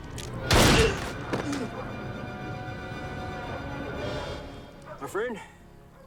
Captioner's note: tense music; gunshots banging